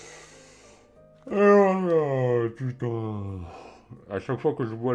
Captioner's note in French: Bâillement